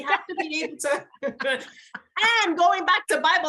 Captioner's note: both laugh